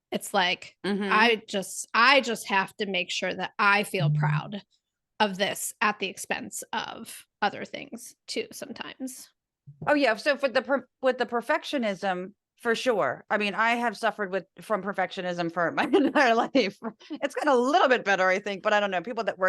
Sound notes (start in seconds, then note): 16.6 laugh